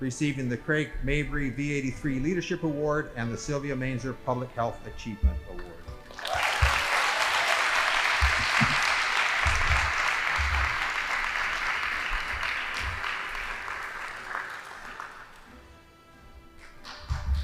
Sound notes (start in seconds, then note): 6.4 audience applauding; 14.3 band playing